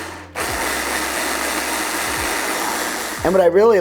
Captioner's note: blender continues whirring